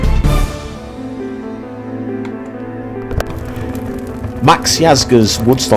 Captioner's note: dramatic music; gentle piano music; fire roaring